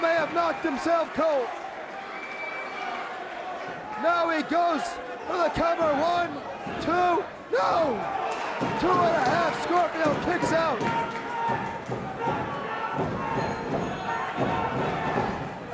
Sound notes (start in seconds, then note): 12.2 crowd cheering; 14.1 crowd chatter